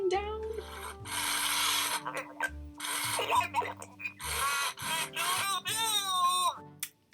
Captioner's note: mechanical whirring and stuttering